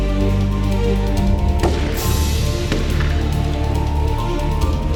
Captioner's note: guns firing